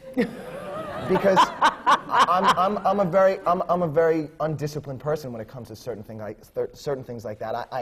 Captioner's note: laughter